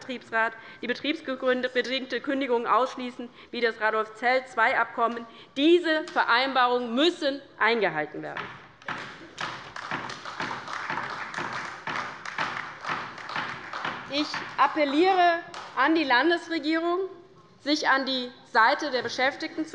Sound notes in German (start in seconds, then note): 8.9 Beifall bei der LINKEN und bei Abgeordneten der SPD